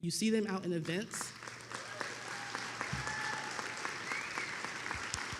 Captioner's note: attendees applauding